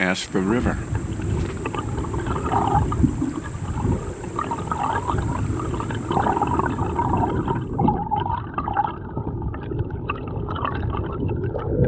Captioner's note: water gurgling